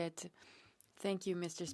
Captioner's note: speaking French